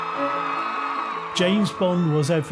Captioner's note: muffled cheering